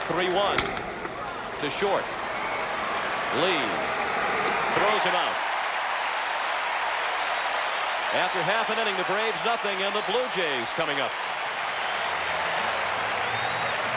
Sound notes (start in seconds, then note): 7.6 applause; 7.9 cheering and Applause